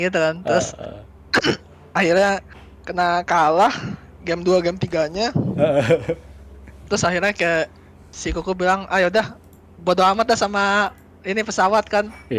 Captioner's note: laugh